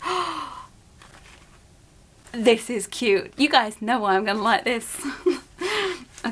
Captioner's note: gasps